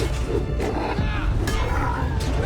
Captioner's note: all grunting